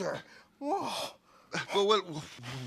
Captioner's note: exclaims